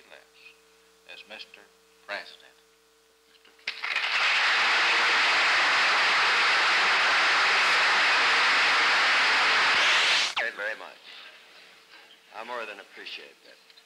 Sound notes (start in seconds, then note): 3.6 applause